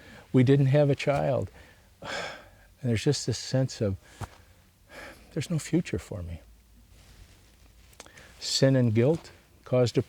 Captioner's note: sighs